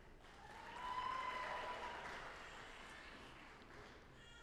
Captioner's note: audience applauding